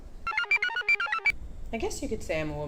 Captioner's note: computer chirps